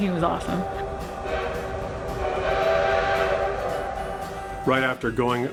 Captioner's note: train whistle tooting